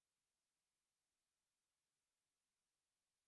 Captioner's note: none